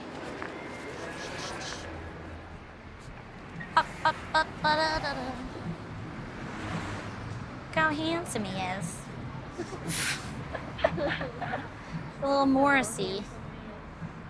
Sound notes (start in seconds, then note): 3.8 humming to herself